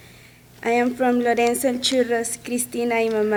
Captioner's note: speaks in a foreign language